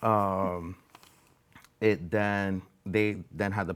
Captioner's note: chuckling